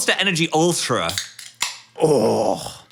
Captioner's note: can pops